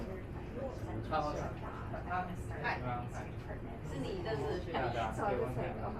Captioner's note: speaking in foreign language